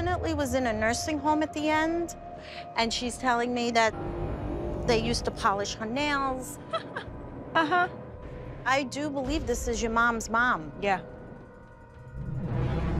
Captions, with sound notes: home at the end, and she's telling me that they used to polish her nails. [laughs] Uh-huh. I do believe this is your mom's mom. Yeah.